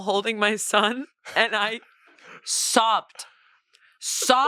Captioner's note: chuckles